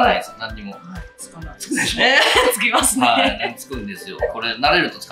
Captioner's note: laughs